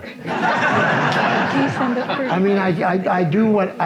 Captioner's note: audience laughs